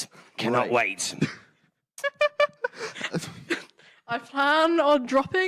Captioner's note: laughing